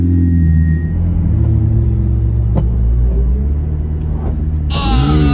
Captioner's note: whirring